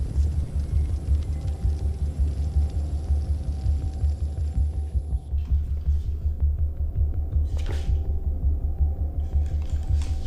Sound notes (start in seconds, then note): 2.4 fire crackling